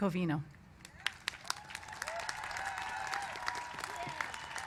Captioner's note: cheers and applause